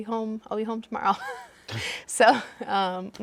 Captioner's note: laughing